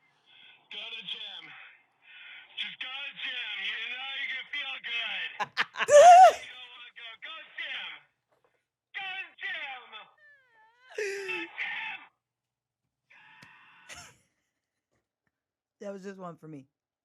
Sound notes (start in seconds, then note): 5.4 laughs; 13.6 yells